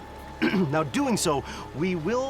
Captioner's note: clears throat